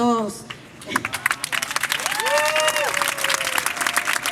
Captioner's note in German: Applaus